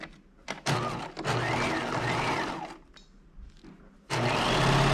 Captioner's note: sewing machine whirring